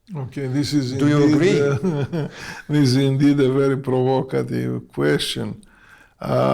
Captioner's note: laughs